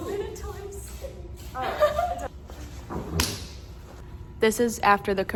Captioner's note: giggles